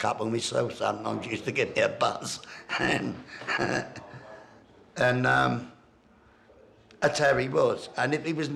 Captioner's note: laughs